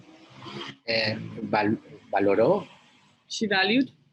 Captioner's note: speaks in foreign language